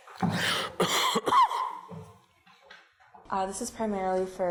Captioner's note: coughs